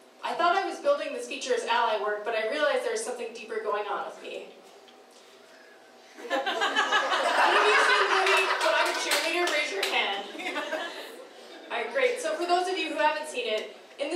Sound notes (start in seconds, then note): 6.2 laughing